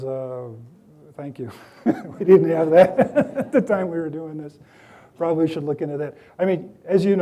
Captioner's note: chuckles